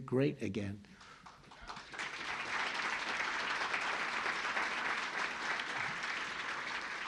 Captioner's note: applause